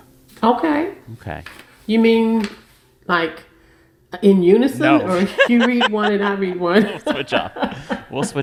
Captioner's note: laughter